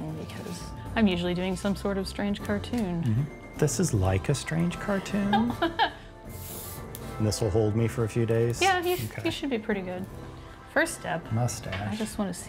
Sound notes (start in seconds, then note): 5.2 laughs; 6.3 spray hisses